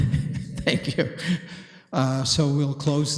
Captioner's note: laughing